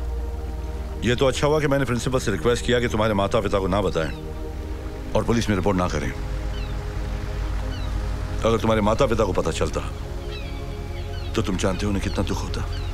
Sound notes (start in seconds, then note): none